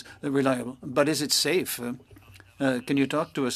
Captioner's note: speaking French